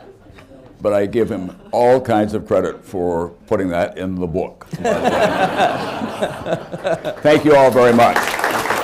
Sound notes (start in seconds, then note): 0.0 laughter; 4.7 laughs; 6.7 applause